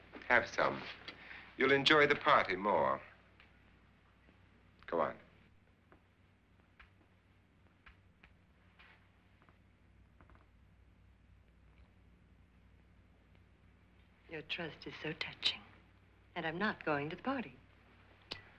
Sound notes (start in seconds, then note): none